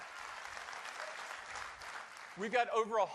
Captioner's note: applause